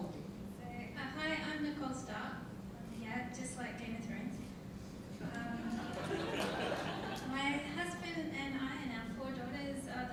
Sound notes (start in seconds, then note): 5.6 audience laughing